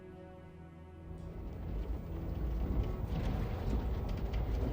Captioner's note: vehicles approach